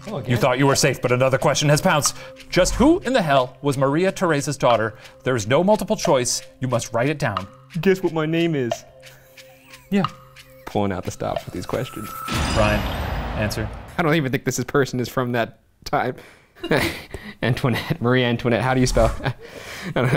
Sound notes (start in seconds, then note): 9.1 laughs; 16.9 laughs